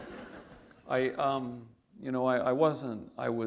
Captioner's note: laughter